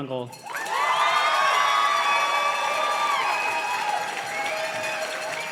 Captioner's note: audience cheers and claps